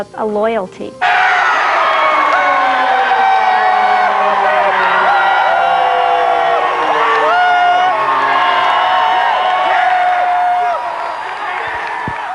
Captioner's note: cheering